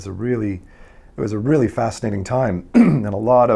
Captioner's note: clears throat